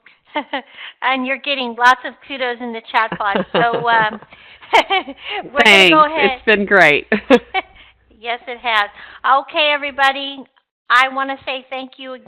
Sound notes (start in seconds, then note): 3.0 laughs